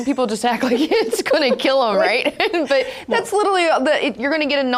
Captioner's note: laughing